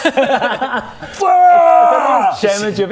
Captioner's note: aaggggggghh!